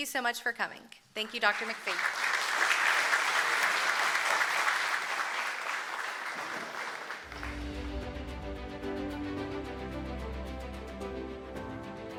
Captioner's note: applause